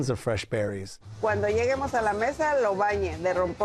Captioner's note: speaking Spanish